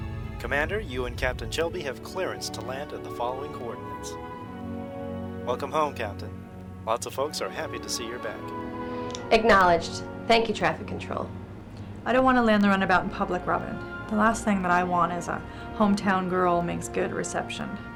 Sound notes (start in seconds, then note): 0.1 intercom